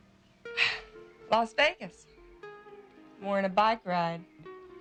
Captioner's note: sighs